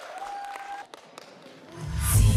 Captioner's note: applause